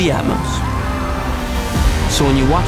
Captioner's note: engines revving; shouting